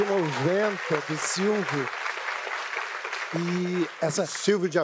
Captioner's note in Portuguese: aplausos